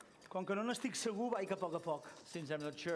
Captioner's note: non-english speech